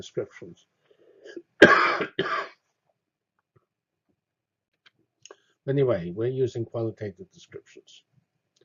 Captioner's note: cough